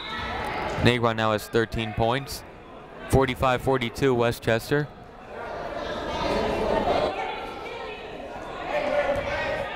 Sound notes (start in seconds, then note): 5.2 people shouting in the crowd